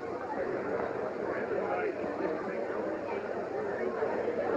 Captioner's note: crowd noise